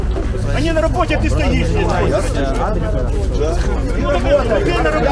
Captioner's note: men arguing in line